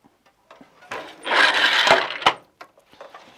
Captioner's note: noise of shuttle moving